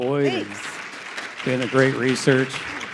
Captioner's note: audience applauding